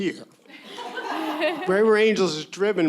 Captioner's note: everyone laughing